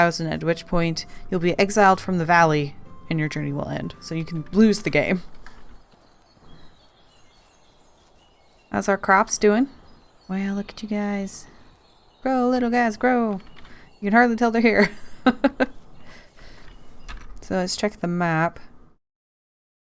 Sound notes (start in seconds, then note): 14.7 laughs